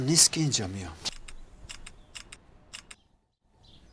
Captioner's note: camera shutter